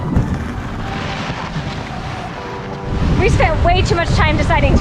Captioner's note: boat scraping on ground; upbeat music